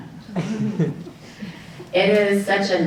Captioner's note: audience chuckling